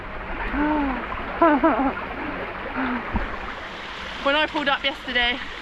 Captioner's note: sigh